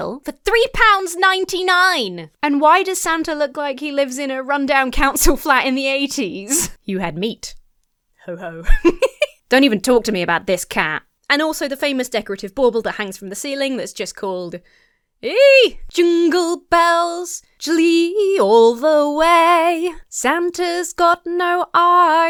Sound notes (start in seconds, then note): 8.6 laughs